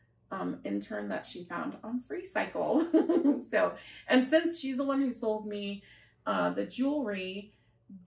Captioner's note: laughter